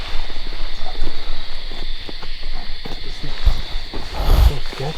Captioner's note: insects chirp